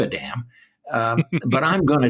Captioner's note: laughter